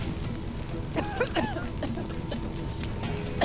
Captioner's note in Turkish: Öksürük Sesleri